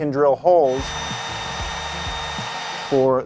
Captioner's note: drill whirring